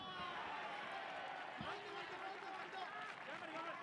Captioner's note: cheering